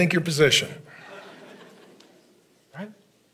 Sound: congregation laughing

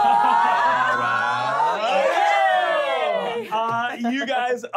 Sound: cheering

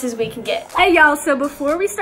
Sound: air whooshing

